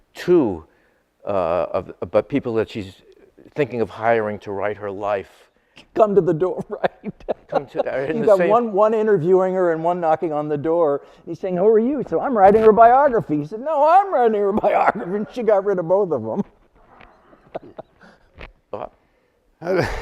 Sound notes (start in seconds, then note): 6.4 laughs; 16.9 laughs